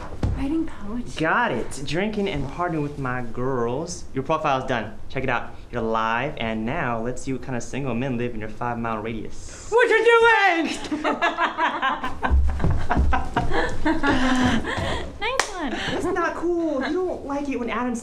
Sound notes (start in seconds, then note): 9.1 in a deep monster voice; 10.6 laughing